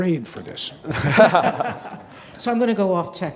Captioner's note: group laughing